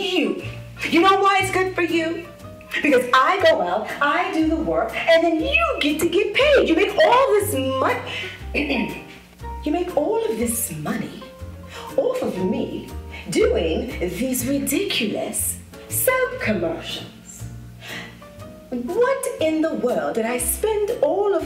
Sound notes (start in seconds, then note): 0.1 hokey music; 8.8 switches to a bad British accent